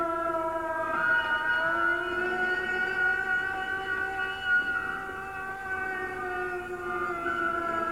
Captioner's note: train whistle